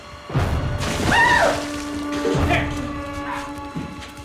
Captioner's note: screams